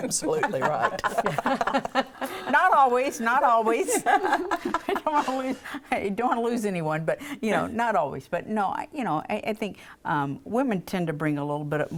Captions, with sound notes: - Yeah, you're absolutely right. (laughing) - Not always, not always. (laughing) I don't wanna lose anyone, but you know, not always, but no, you know, I think women tend to bring